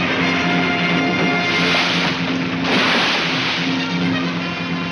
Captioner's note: water splashes